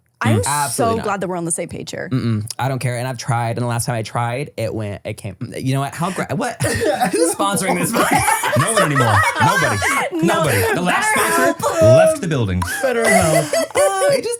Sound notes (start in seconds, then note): 8.2 everyone laughs